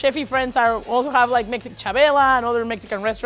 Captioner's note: speaks Spanish